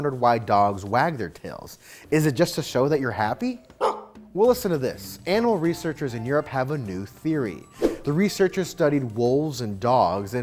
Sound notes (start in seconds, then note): 3.8 NewsHound barking